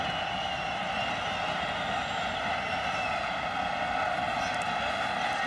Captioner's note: cheering